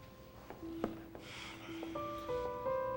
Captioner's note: sighs